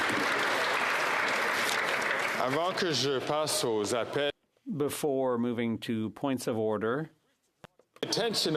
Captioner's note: some Applause